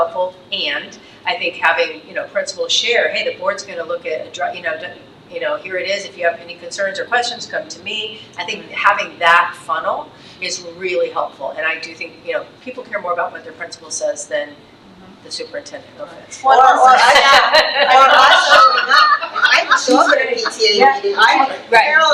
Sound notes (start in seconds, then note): 16.6 trustees laughs; 18.5 trustees chattering